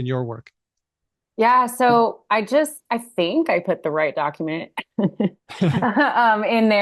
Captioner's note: laughs